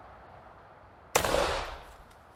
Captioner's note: gunshot